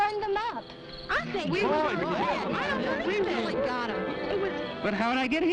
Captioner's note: bystanders talking loudly